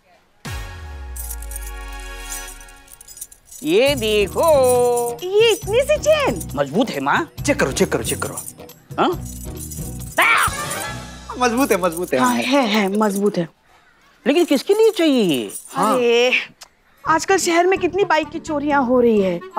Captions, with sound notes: [keys jangling] Look! - Such a small chain! - It's strong, Mom. - You should check it. - Huh? [yells] - It's strong. - It is indeed strong. But why do you want it? Oh. Nowadays so many bikes are being stolen.